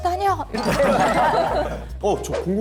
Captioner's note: laughing